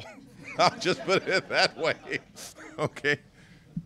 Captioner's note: laughter